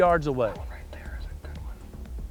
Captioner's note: whispering